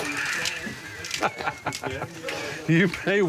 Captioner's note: Stephen laughs